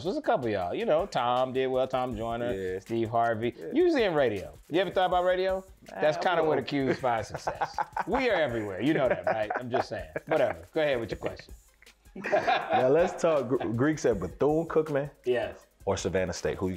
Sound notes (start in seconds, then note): 12.4 laughs